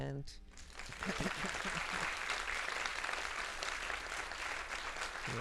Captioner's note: audience applauding